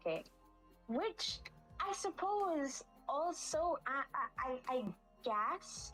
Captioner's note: fumbles for words